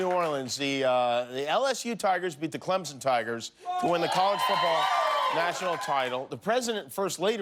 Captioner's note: cheers and applause